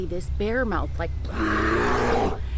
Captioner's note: bear roars